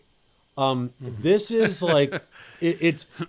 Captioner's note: chuckling